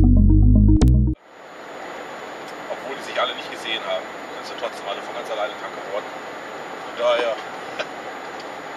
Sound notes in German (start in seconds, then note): 0.0 Intro-Musik; 1.6 telefoniert